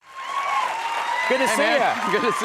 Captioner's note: audience cheering